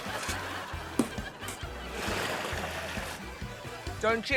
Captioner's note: laughter